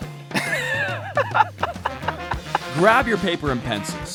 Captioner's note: laughing